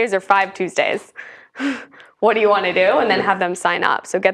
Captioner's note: laugh